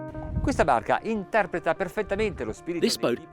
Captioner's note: speaks in foreign language